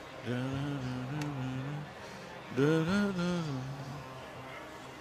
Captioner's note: humming